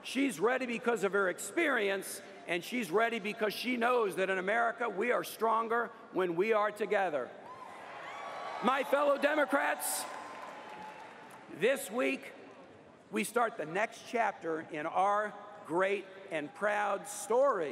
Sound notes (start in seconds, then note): 7.5 cheers & applause